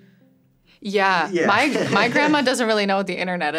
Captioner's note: laughs